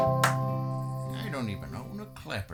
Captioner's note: hands clap